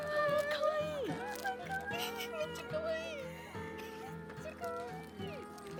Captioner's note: laughs